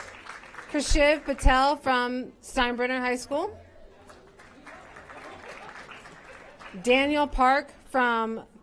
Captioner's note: applause